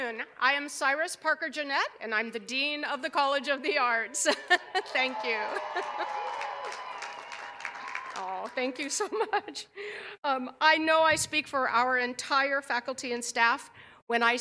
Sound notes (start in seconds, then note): 8.3 cheers and applause